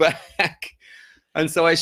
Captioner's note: laughs